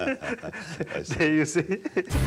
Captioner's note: laughs